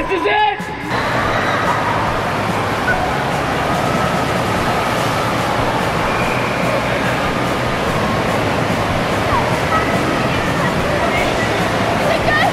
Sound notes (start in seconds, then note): 1.1 water whooshing